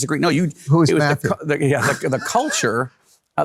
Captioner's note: laughs